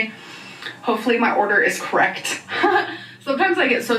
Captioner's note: chuckles